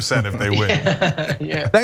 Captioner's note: laugh